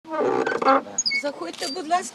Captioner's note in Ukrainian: Скрип дверей